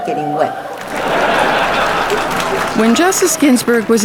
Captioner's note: audience cheering